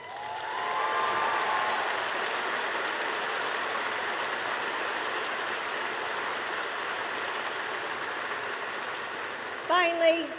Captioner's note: applause